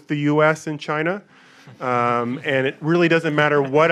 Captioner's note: audience laughing